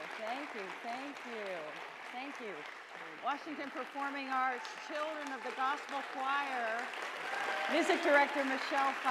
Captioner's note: applause; applause continues